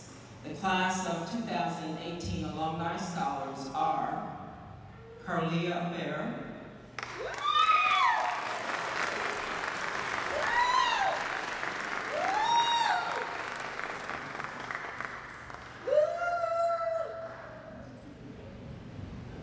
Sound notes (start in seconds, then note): 6.9 applause